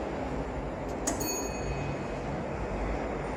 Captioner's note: chime